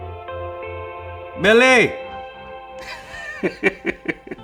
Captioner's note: laughs